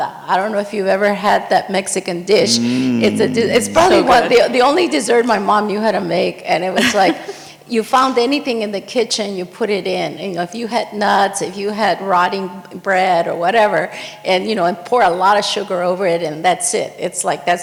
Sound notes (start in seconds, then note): 6.8 chuckles